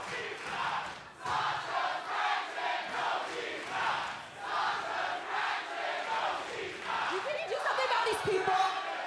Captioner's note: fans chanting